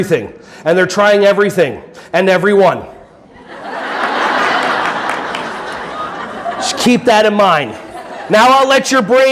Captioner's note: audience laughing